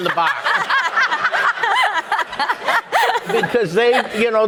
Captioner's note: audience laughing